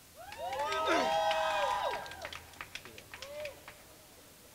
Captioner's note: crowd cheering